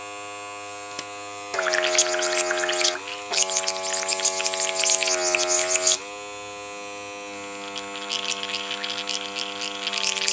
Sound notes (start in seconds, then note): 1.5 water bubbling